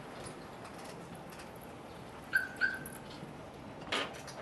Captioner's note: car alarm chirps